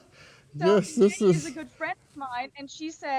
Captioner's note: laughs sarcastically